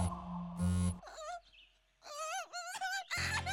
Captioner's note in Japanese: 通知音; 悲しそうな声; 泣き声